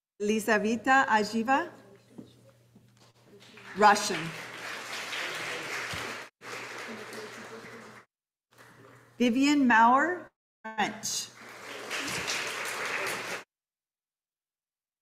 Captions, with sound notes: Elisa Vita Ashiva. Russian. (audience applauding) Vivian Mauer, French. (audience applauding)